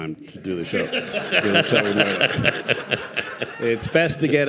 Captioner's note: participants and audience laughing